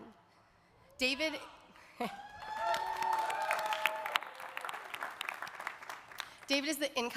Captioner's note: audience cheering; audience applauding